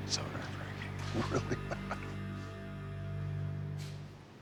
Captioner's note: chuckles